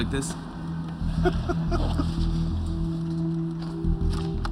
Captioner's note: laughs